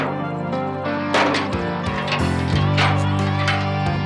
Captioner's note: none